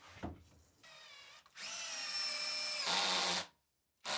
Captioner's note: drilling sound